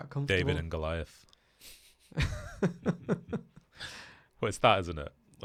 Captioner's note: laughs loudly